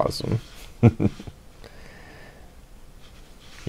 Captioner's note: chuckles